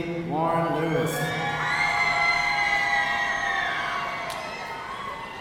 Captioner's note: audience cheering